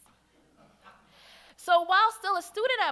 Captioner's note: audience laughs